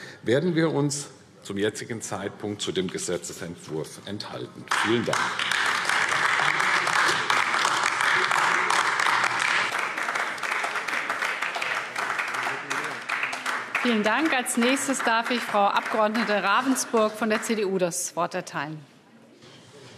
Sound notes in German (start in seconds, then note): 4.6 Beifall AfD